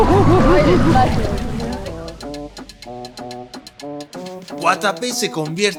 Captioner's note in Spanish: risas; gemido; grito